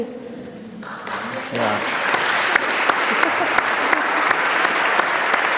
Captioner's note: audience applauding